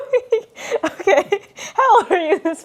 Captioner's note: laughs